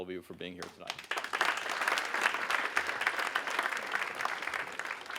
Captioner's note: audience applauding